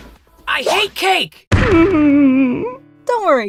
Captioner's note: sad whimper